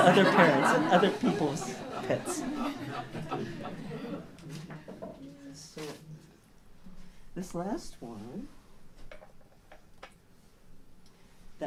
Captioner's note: laughter